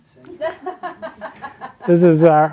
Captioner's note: audience laughing